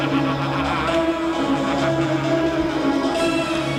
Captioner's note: man laughing